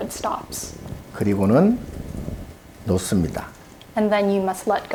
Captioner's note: speaking Korean